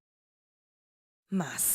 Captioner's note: silence